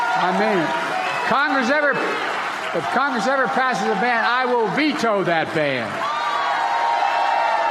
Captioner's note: applause